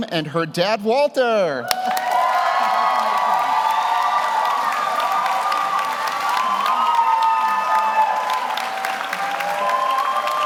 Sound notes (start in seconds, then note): 1.6 audience cheers; 1.6 audience applauds